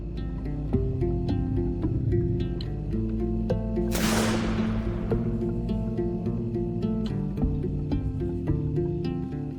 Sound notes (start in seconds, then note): 0.3 somber music; 3.9 gun firing; 6.6 somber music